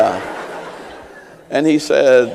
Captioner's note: laughter